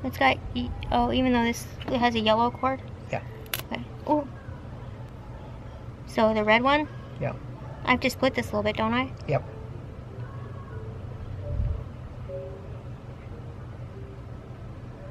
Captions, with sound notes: Oh, even though this has a yellow cord? Yeah. Oh, *spark* Oh! So the red one? Yeah. I have to split this a little bit, don't I? Yeah.